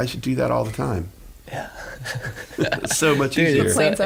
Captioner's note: laughing